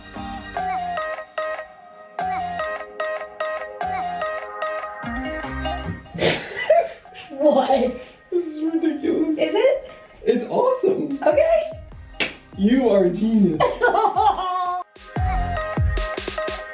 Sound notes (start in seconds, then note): 6.1 laughing; 13.6 laughing